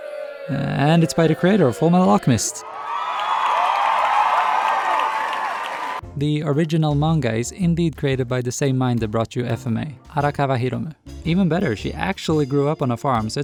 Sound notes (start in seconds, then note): 2.5 loud cheers, whistles, insanity